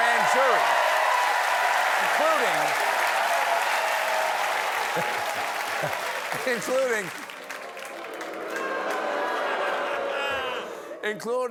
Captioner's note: cheers and applause; booing